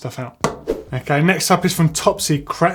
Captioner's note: swoosh